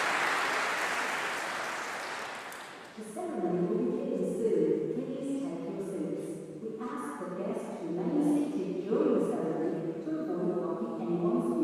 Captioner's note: applause